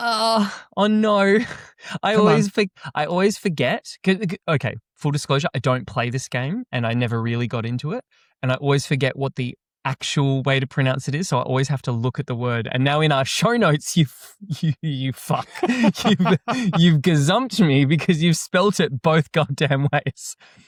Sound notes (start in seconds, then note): 15.2 chuckles; 15.2 laughs